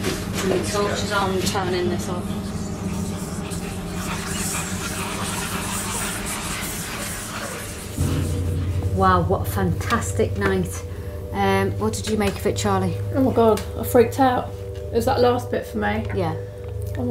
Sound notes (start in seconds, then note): 2.6 tense music; 3.9 mysterious whispering